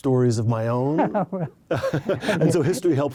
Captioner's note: both laugh